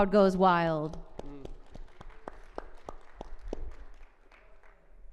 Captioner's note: audience applauding